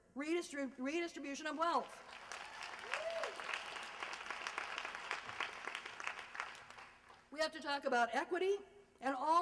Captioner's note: applause